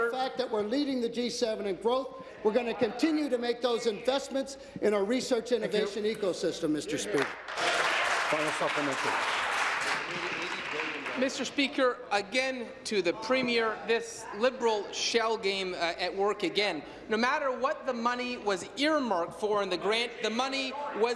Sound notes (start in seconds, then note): 11.3 applause